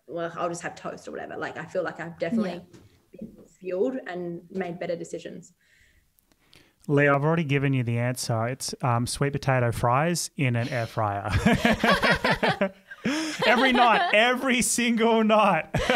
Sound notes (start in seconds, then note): 11.5 all laugh